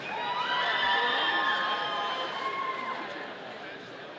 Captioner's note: audience cheering